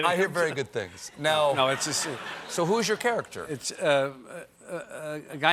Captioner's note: laughter